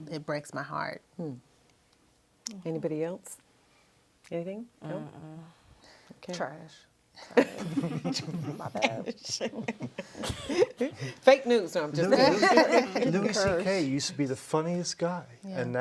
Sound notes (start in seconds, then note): 7.3 laughs; 12.0 group laughs